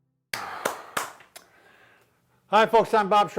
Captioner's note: clapping